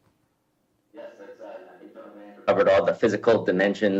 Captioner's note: faintly speaking